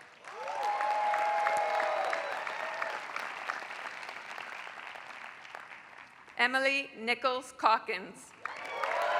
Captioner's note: applause; applause